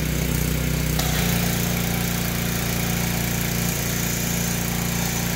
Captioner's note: nozzle spraying